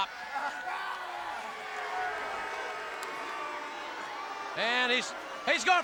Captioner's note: crowd chatter